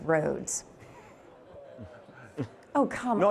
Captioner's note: audience grumbling